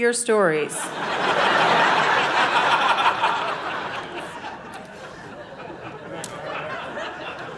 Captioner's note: audience laughing